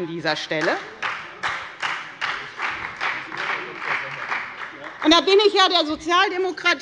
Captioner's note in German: Beifall bei der FDP und bei Abgeordneten der SPD